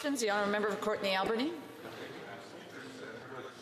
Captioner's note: speaking French